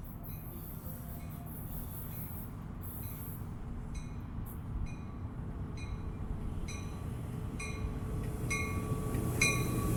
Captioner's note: sound of train approaching